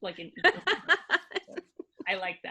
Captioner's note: laughing